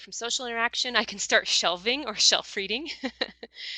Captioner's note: laughs